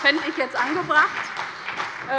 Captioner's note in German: Beifall bei der CDU und dem BÜNDNIS 90/DIE GRÜNEN